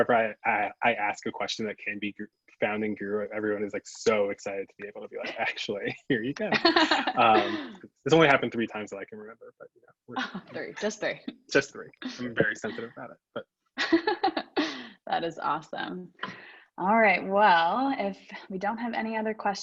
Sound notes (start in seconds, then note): 4.5 laughs